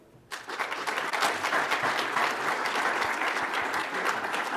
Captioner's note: audience applauds